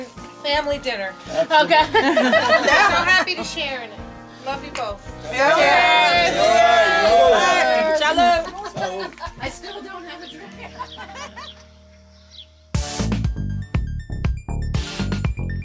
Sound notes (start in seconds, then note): 5.3 all cheers; 12.6 upbeat music